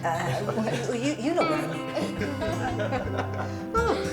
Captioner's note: all laughing